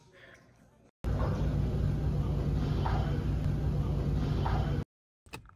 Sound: fitness Center Machine Sounds

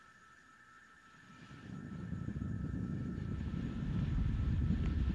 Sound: rumbling

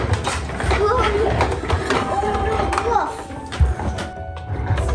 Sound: plastic toys crash

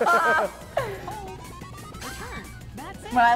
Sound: laugh

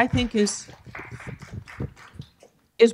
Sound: applause

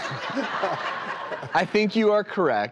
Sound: audience laughs

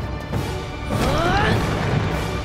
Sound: grunting

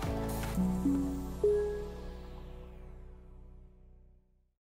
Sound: upbeat music; logo chiming

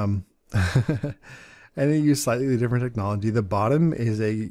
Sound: chuckles

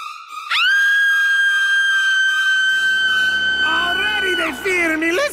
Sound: screams

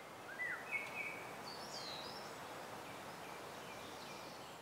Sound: birds chirping

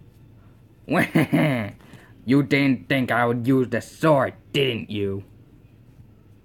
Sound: evil laughter

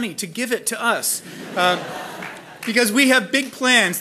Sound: laughing

